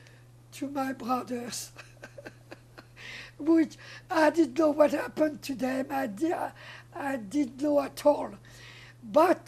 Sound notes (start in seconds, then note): 1.6 laughing